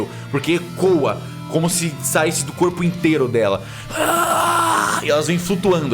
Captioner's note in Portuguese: grunhido